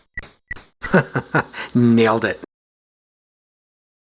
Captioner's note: laughs